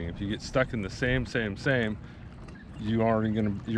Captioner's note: none